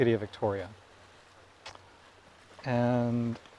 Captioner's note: waves crashing